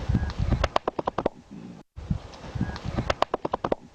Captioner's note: chest slapping